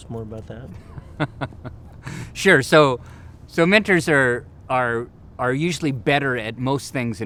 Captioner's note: laughs